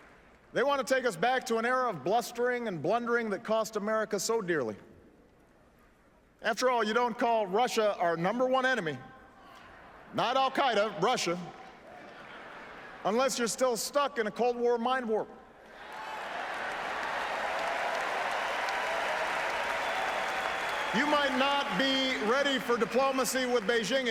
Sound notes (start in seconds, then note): 19.7 applause